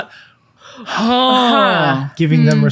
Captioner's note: exasperated sound